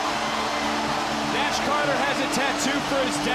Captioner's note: crowd cheering